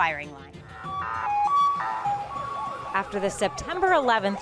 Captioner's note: siren wails